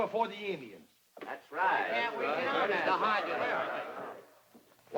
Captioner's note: men murmur